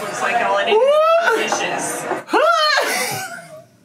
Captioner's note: laughs